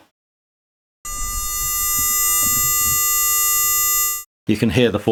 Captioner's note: the sound of a 400Hz tone